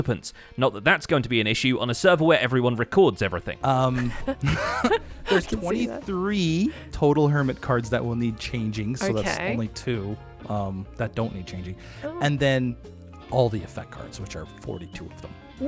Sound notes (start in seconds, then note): 3.8 nervous laugh; 3.8 laughs